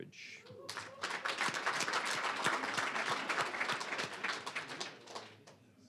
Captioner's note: applause, cheering